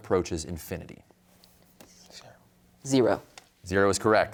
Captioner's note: whispers